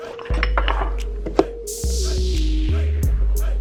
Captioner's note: glass clinking